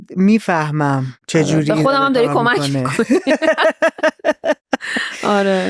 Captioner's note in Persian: خنده